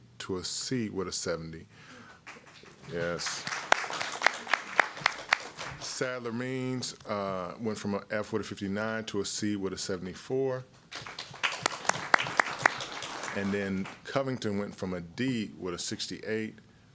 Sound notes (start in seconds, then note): 6.9 applause